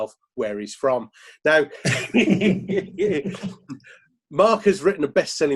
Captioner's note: laughing